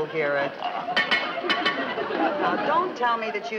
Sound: metal clanking

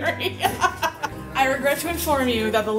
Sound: laughing

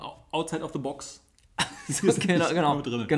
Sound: laughs

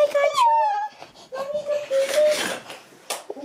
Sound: curtains draw; baby coos; clicks

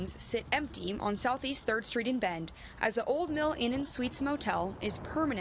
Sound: nat pop of road

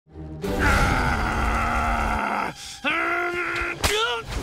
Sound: growling

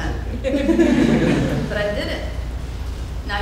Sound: audience laughing

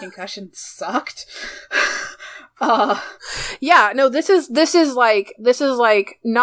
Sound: laughs; laughs

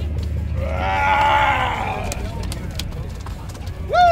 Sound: man groans

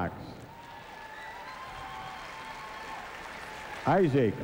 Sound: cheers, whistles, & applause

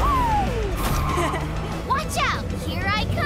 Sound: laughs

